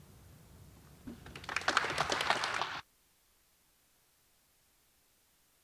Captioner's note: audience applauding